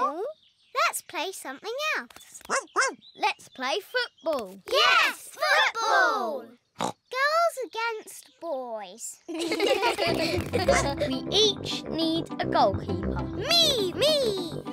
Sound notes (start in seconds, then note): 2.5 barks; 6.6 snorts; 9.3 all laugh